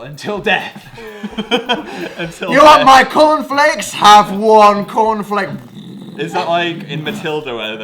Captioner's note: imposing doom sound